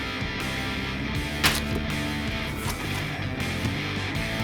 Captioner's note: machete thudding; mellow rock music